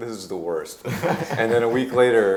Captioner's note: group laughing